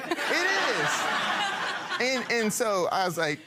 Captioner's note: people laughing